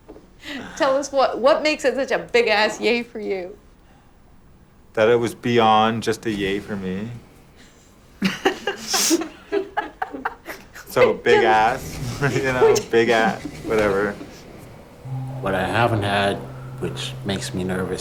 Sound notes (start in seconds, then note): 8.8 chuckling; 11.0 chuckles